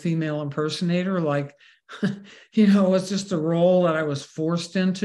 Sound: laughs

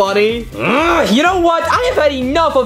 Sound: Luigi grunts

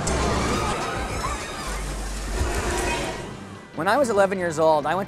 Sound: people screaming

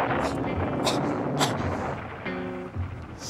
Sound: sneezes

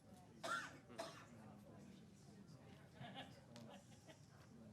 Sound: chattering amongst public

